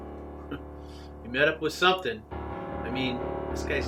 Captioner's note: chuckles